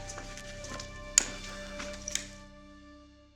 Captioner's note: lights flicking off